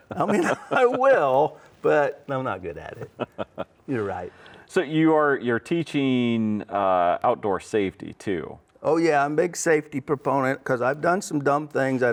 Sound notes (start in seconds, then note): 2.9 laughs